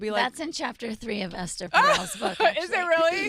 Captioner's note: laughs